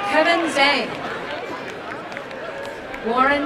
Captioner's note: applause and cheering